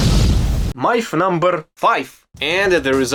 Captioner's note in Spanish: Con grave acento ruso